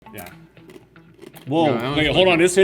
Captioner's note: food crunching